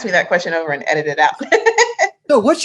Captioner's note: laughs